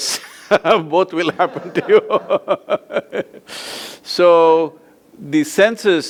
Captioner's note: both laugh; laughs